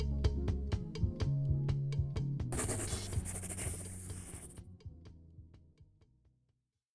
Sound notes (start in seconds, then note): 2.5 pencil sketching